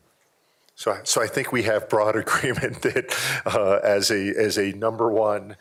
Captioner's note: laughter